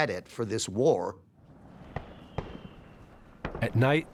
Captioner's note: rocket firing